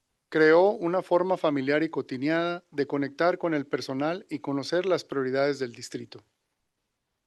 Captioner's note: non-english speech